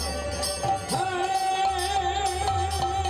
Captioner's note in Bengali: ঘণ্টা